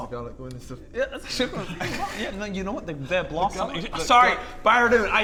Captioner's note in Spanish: Murmullo, murmullo